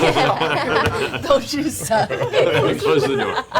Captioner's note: Grog voice